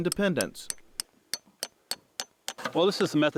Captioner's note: chink of hammer tapping spile